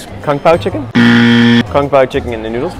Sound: buzzer sound

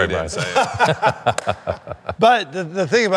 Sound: laughing

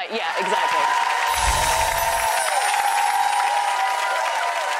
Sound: applause

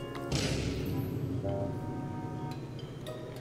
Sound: playful music; explosion

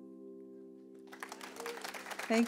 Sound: applause

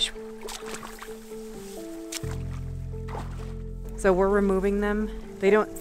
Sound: water splashing

